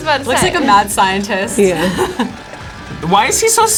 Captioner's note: laughs